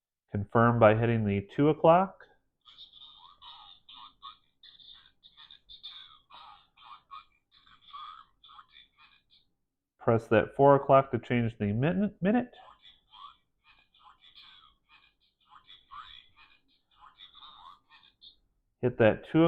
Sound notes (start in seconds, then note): 15.1 watch announces minute